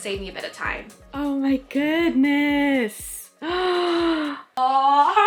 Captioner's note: gasps